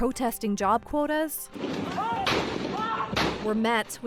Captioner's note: shouting, gun firing